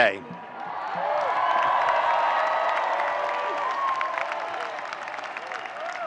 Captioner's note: audience cheering and applauding